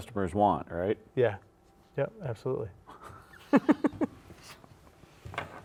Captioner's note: laughs